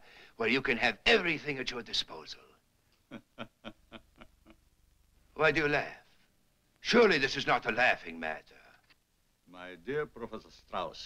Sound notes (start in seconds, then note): 3.0 soft chuckling